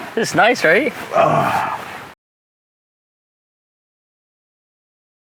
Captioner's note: sighs